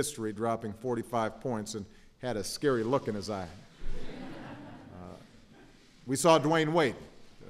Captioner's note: laughter